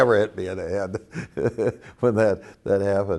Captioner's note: laughs